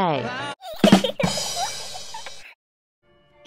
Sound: laughter; ba Dum Tss

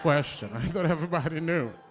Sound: laughter

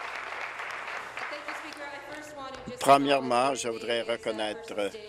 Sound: applause

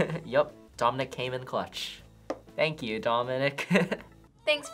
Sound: chuckles; chuckles

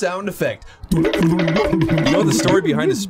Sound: imitates sound

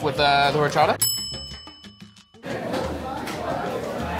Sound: bell dings

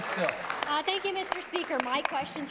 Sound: applause

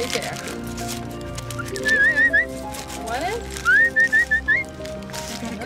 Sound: whistles

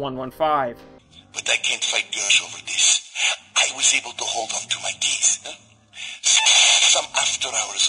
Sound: static

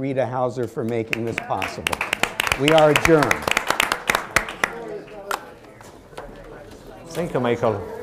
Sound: applause

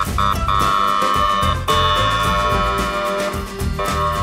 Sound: siren wails

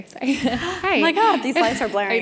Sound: laugh

